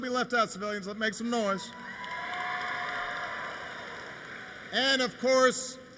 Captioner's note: applause